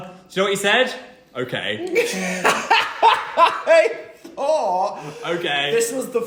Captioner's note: laughter